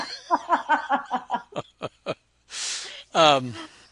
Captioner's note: laughs; both laugh